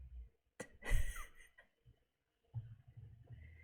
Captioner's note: laughs